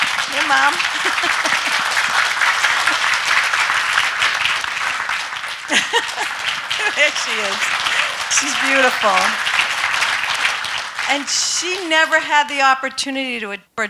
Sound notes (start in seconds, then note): 1.5 laughs; 2.7 audience clapping; 5.6 laughing; 9.9 audience clapping